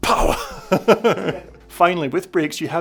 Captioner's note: laughs